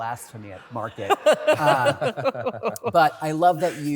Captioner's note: laughter